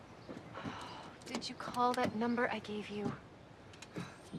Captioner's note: sighs